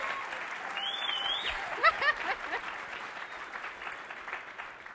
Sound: applause; laughs

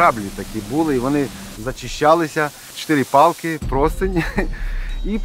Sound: laughs

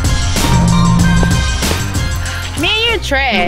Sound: Swish

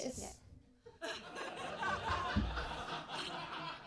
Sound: laughter

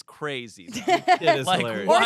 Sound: laughs

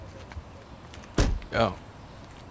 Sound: car door shutting

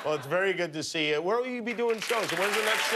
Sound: laughter

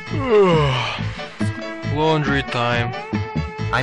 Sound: yawn

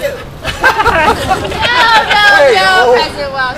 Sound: laughter

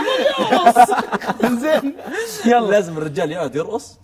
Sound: all laughing

